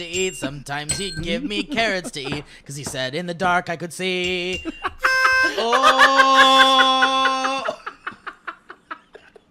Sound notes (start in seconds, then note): 0.0 ding ding; 0.8 ding; 4.3 ding ding; 8.9 laughs hysterically